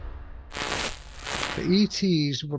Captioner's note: static crackling